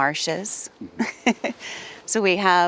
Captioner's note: laughing